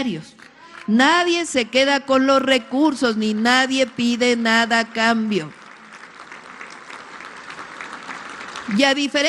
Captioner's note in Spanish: aplausos